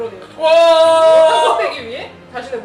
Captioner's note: screaming